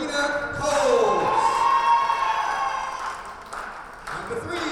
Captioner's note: audience cheers